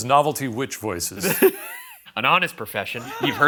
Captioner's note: laughs